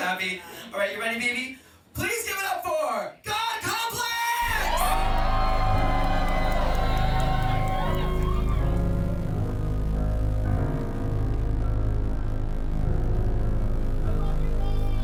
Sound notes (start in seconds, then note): 4.4 audience cheering; 10.4 dramatic music